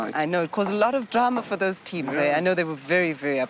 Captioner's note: none